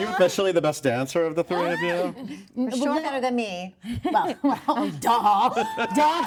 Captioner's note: laughter